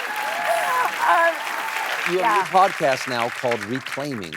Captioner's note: applause